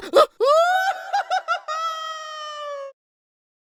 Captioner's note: Silver Spoon screams